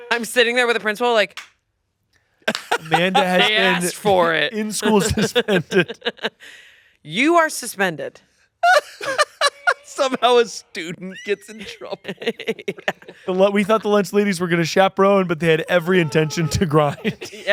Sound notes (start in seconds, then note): 8.6 laughing; 10.9 laughs